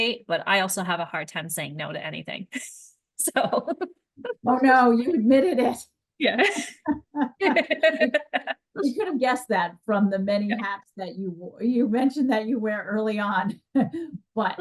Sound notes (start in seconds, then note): 6.3 laughing